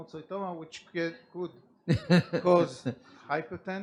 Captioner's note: laughs